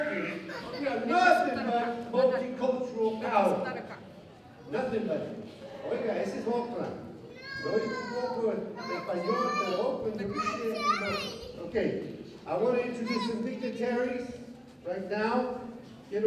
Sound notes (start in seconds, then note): 5.9 non-english speech; 7.3 crying child